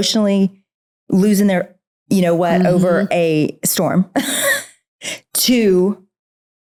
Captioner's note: laughs